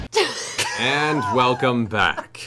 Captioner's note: laughing